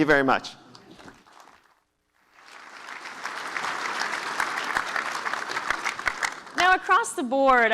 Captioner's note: applause